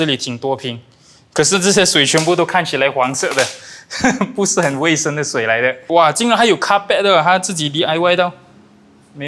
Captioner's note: laughs